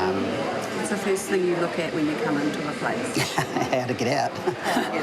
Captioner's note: laughs